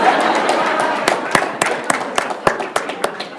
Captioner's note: applause